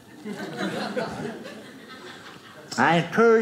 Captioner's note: audience laughing